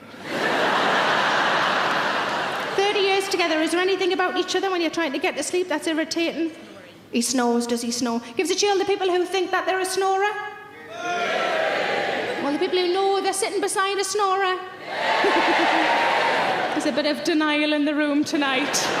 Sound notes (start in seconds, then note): 0.3 laughing; 11.0 audience cheering; 14.9 audience cheering; 18.7 laughing